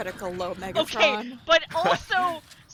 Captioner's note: laughs